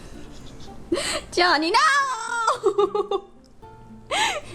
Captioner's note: laughs